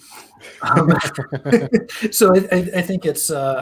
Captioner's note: laughter